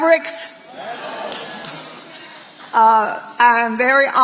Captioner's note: audience responding